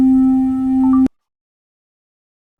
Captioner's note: iPhone ending video recording beep